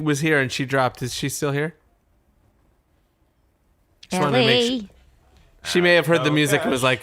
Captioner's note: pause